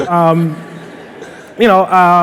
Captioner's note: laughter